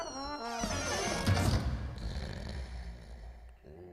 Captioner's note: snoring